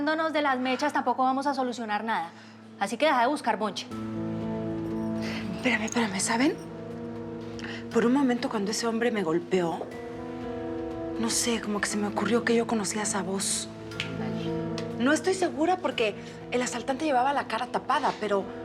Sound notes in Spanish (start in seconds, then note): 13.9 chasquido de dedos